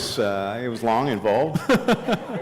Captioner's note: laughter